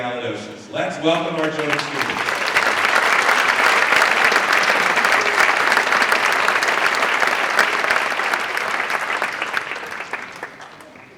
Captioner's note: applause